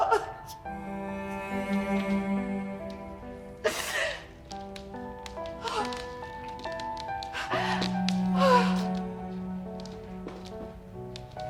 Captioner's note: crying